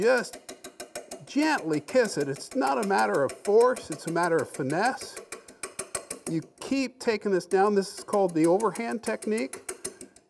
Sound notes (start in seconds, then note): none